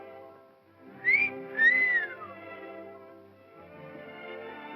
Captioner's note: Gail whistles; ballroom music